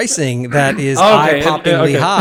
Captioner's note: laugh